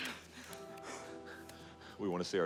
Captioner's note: Margret sighs